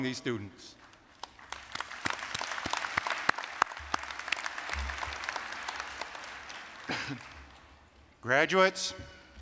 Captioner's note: applause